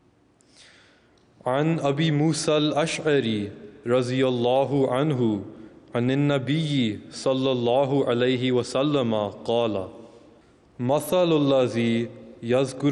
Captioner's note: arabic: Recitation of Hadith